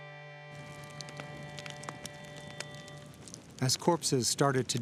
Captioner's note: fire crackling